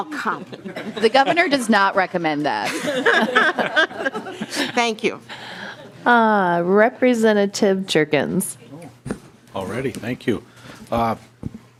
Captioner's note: laughing